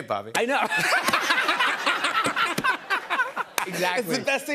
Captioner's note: laughter